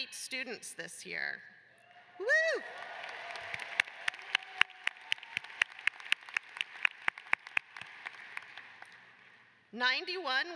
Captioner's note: cheers and applause